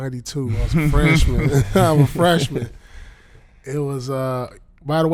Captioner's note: laughing